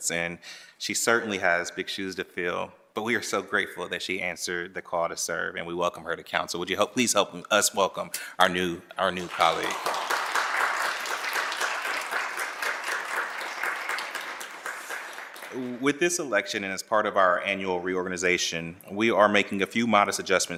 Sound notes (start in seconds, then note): 14.1 applause